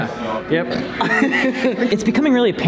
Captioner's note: laughter